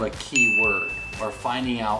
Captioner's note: bell dings